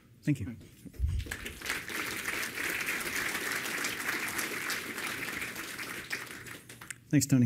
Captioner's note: applause